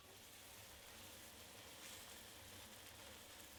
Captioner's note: food sizzles